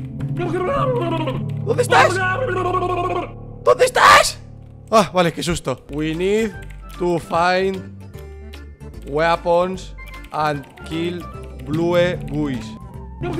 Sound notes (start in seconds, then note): 4.4 idiot shouting